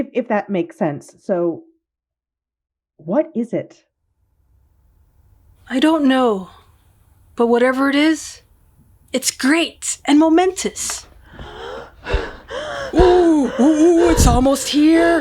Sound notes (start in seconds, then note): 11.2 panting